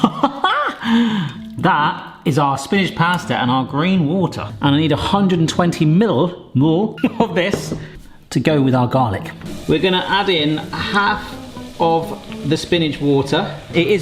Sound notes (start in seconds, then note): 0.0 laughs; 7.0 chuckles